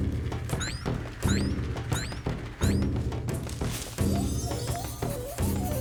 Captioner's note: boing! boing! boing! boing!; tinkling